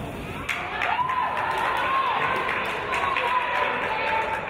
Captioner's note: applause